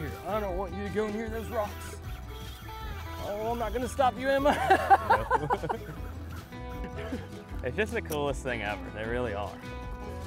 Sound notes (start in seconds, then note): 4.4 chuckles